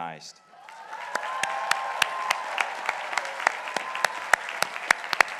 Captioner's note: crowd applauding